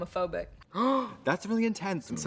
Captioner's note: Trixie gasps